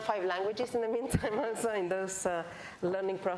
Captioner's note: laughs